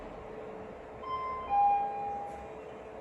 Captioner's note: ding dong